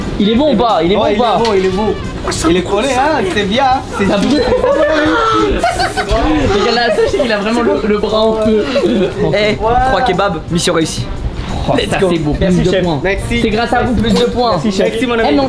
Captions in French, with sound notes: - Il est beau ou pas ? Il est beau ou pas ? - Ouais il est beau, il est beau - Wesh sa brûle sa mère - Il connaît hein Il fait bien hein - Ça t’a brûlé ? *rire* Regarde là, touche, il a vraiment- - C’est bon - Ouais - Le bras en feu - Eh 3 kebabs Mission réussie Let’s go - Ça c’est bon - Merci chef - +2 points - Merci - C’est grâce à vous, +2 points - Merci chef - Merci mon ami